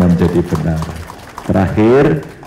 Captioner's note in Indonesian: tepuk tangan